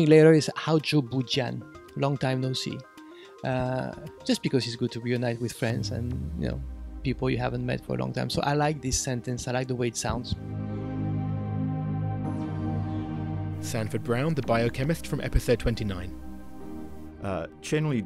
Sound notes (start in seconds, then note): 10.2 voiceover